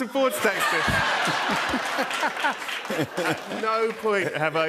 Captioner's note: cheers and applause